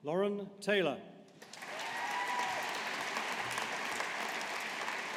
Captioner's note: audience applauding